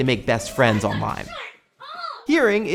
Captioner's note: yelling